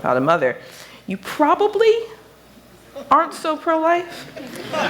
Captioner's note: laughter